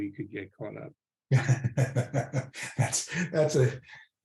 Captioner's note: laughs